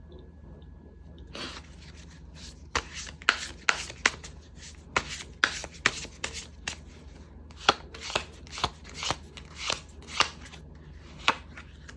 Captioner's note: drawing cards